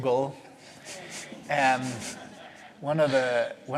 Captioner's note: laughter